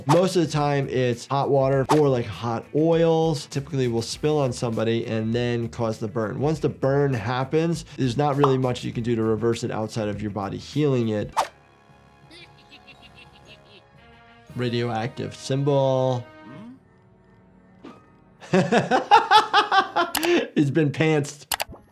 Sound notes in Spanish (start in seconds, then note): 12.3 personajes verdes riendo; 18.4 riendo